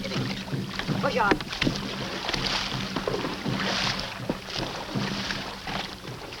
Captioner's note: water splashes; speaks in foreign language